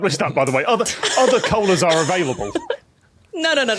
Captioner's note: laughs